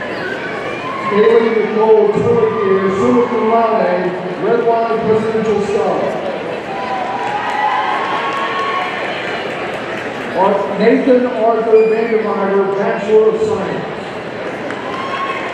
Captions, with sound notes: Kaylee Nichole Twilligear, summa cum laude, Redwine Presidential Scholar, (audience cheering) Nathan Arthur Van De Vyvere, Bachelor of Science,